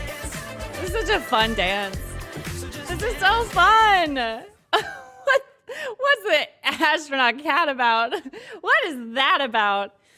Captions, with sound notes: This is a fun dance. This is so fun. [laughs] What's that astronaut cat about? what is that about?